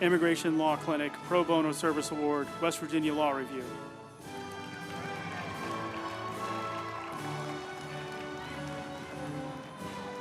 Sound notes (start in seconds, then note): 4.3 group applauding; 4.5 uplifting music